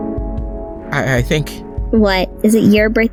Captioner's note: stutters